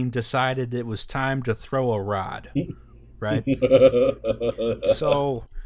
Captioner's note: laughter